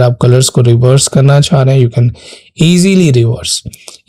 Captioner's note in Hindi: नाक से की जाने वाली आवाज़